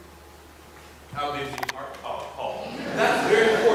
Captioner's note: audience laughing